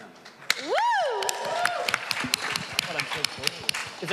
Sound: applause

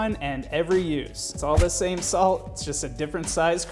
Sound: thud

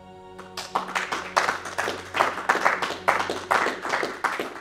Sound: crowd claps

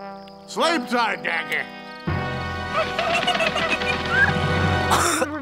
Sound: Daggett whimpers; beavers snoring

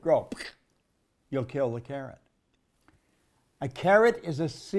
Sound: squishes

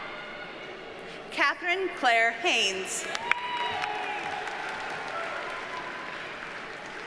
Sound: audience cheers and applauds

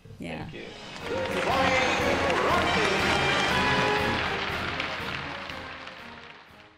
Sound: playful music; crowd clapping

